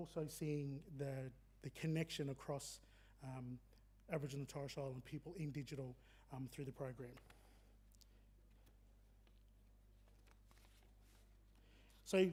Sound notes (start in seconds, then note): none